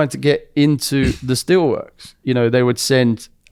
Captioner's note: laughs